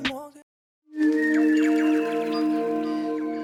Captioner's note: birdsong